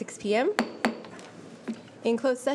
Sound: gavel bangs

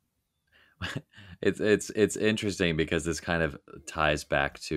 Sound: chuckling

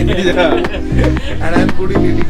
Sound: laugh

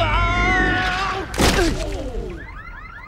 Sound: grunts; car alarms sounding

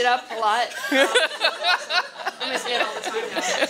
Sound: laughter

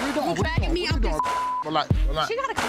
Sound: beep

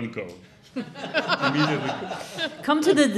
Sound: audience laughing

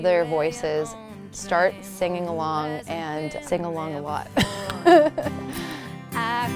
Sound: laughs

